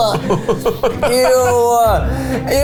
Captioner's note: laughs